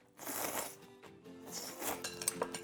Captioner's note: slurps noodles